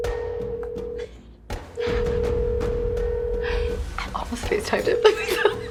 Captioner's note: women laughing quietly